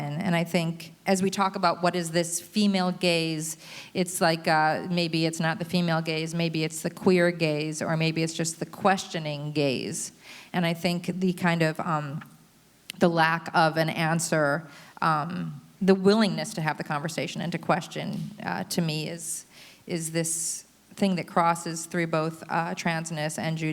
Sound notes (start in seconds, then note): none